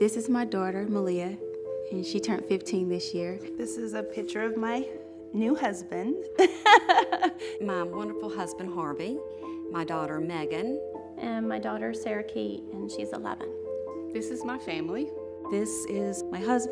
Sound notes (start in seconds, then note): 6.4 laughs